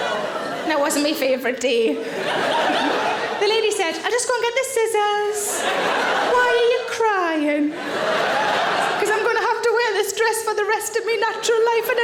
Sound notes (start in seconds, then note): 7.7 audience laughing